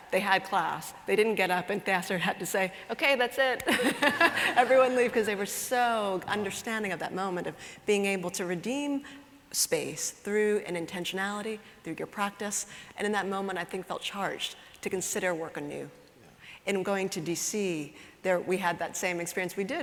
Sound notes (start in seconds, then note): 3.6 laughter